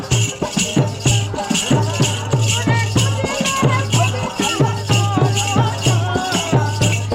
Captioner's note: chanting